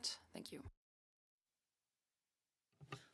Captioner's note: speaking French